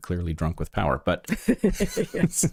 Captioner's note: laughing